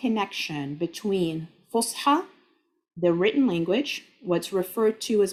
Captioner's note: speaking Arabic